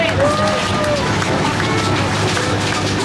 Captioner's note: clapping